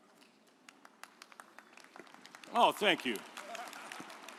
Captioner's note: audience applauds